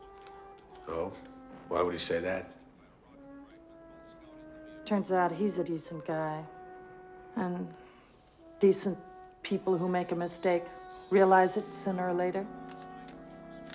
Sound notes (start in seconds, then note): none